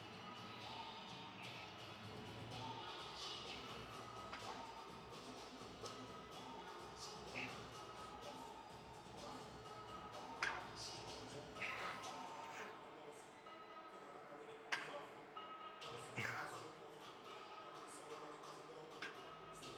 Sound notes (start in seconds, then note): 11.5 grunts; 13.4 soft music